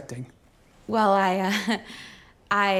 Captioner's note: chuckles